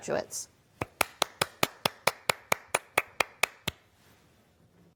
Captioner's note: clapping